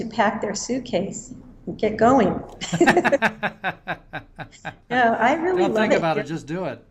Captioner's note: laughter